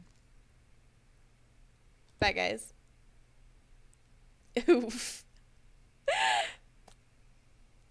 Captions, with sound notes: Bye, guys. Oof. *laughs*